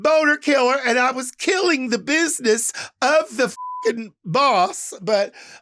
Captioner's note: beeps